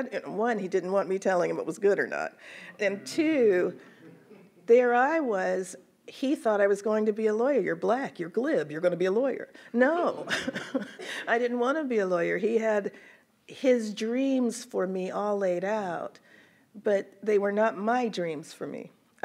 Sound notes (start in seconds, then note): 4.0 audience chuckles; 10.2 laughs; 10.4 audience laughs